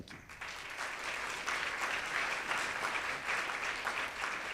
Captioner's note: audience claps